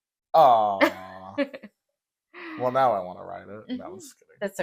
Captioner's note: laugh